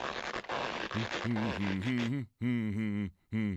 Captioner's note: rope creaking; humming